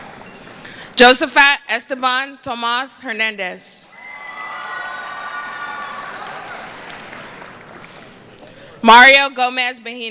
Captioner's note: cheering